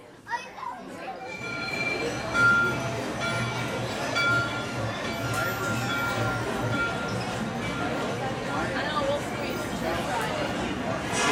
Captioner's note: bell ringing